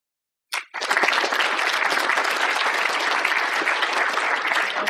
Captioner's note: applause